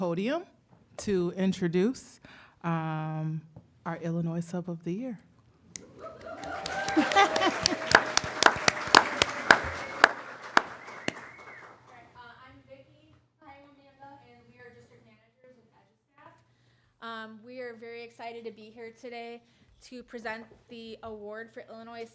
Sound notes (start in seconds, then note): 5.8 applause